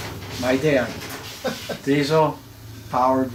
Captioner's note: laughs